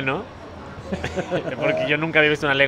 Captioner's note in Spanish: risas